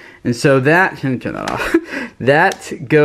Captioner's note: laughs